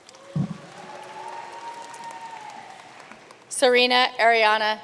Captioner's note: audience cheering and applauding